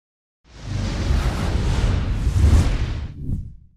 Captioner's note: air whooshing